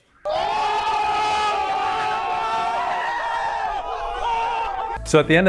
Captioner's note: crowd